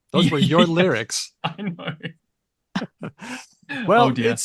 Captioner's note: laughs